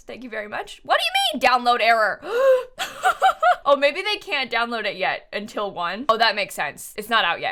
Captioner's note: gasps